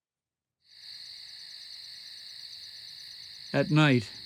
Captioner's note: insects chirping